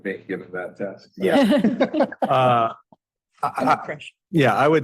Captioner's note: all laughing